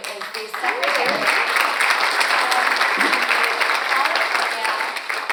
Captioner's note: audience applauds